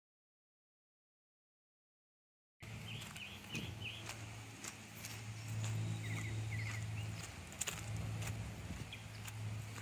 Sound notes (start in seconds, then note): 2.6 birds chirping; 2.6 footsteps crunching